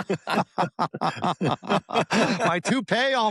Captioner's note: laughter